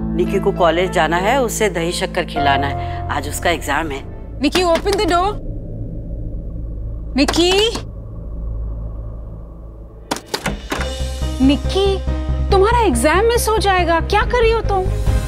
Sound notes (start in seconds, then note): 4.5 door knocking; 7.7 door knocking; 10.0 door opens; 10.1 door knocking